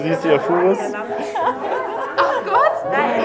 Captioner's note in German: Lachen und Sprechen